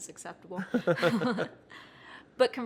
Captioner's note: both laugh